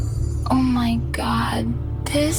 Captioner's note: Digital Angel, female, barely whisper, spoken